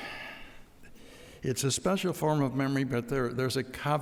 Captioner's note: sighs